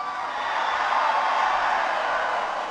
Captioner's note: applause